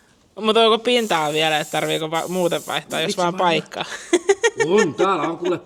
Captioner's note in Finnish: naurua